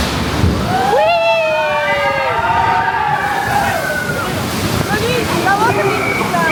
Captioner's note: guests shouting